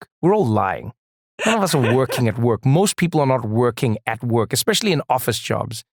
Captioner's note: laugh